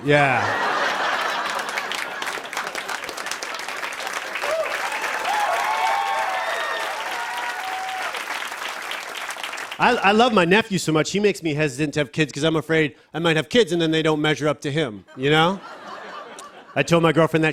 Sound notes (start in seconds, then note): 0.2 laughter; 3.8 cheers and applause